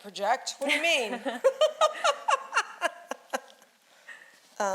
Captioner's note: laughing